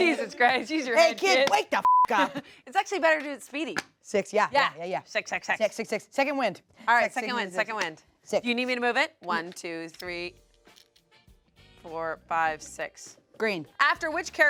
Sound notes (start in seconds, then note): 1.8 beep